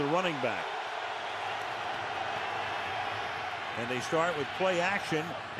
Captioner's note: crowd cheering